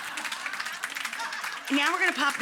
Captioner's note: audience applauds